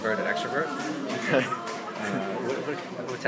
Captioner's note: laughs